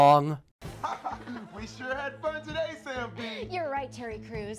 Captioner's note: laughs